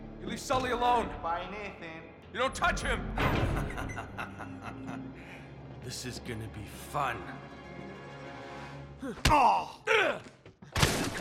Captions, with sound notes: You leave Sully alone! Bye, Nathan! YOU DON’T TOUCH HIM! (laughs) This is gonna be fun!